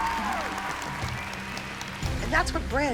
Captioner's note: cheering